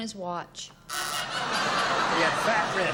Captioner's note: buzzer